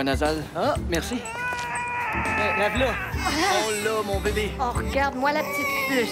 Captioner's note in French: pleurs